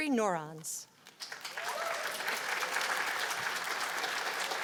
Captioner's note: cheers and applause